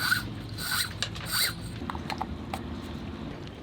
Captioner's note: cord rustling